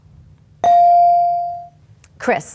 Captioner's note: bell dings